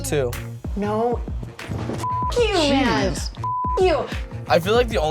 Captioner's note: beep